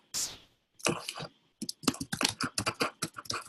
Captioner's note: clicks